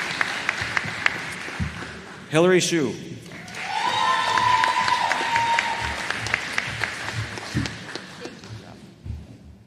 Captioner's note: applause